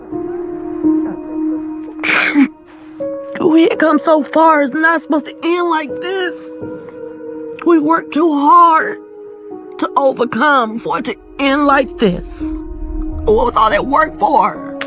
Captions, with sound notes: [sobs] We had come so far. It's not supposed to end like this. We worked too hard to overcome for it to end like this. What was all that work for?